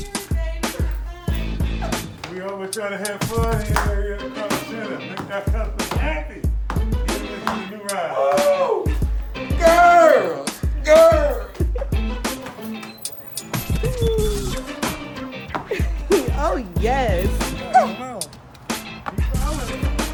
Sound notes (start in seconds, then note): 2.1 customer laughs; 6.9 customer stomps; 17.8 laughs